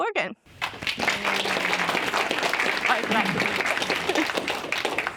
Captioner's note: audience applauds